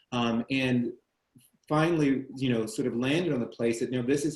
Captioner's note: none